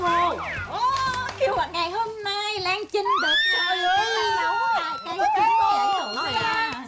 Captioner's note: screaming sound